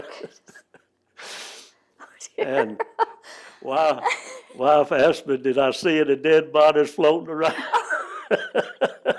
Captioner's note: laugher